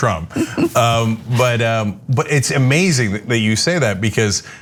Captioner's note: laugh